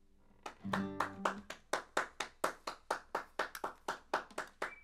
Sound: clapping and whistling

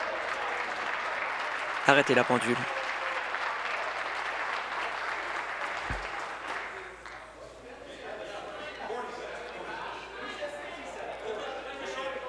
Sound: applause

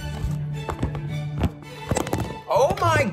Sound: clattering

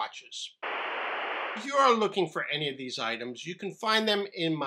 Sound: static noise

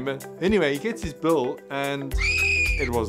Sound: shrill screaming

